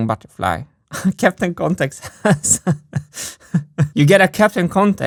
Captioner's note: laughs